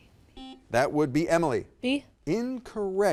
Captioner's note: buzzer dings